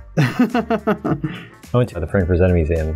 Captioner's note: laughter